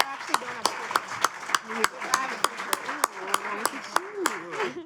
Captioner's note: audience applauding; audience applause drowns out conversation